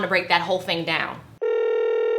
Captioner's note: phone Ringing